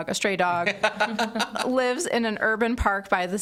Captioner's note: all laughing